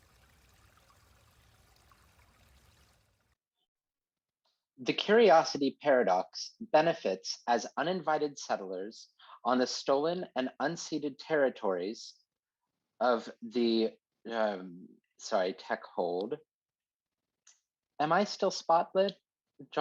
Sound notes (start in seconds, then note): 2.1 water fades away